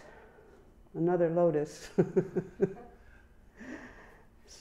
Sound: chuckling

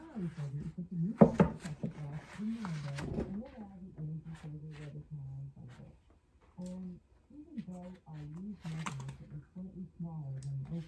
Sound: audio from speaker

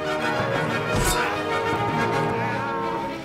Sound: thud

